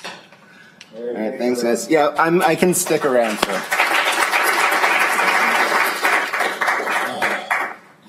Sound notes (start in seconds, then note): 2.7 applause